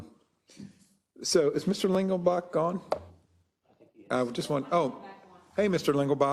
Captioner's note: laugh